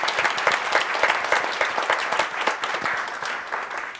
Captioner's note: audience applauds